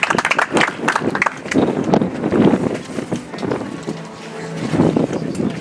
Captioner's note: audience applauds